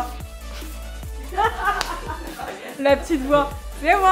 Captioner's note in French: rires